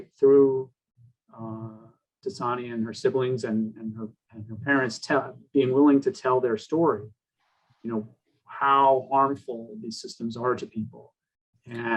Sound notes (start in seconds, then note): none